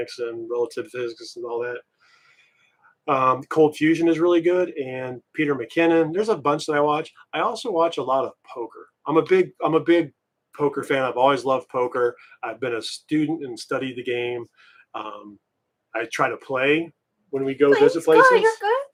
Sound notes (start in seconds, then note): none